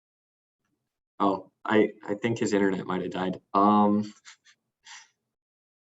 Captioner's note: laughing